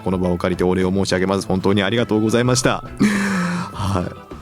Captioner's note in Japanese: 息をのむ音